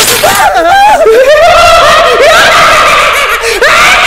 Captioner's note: Sinister laugh